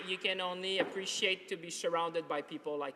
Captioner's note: applause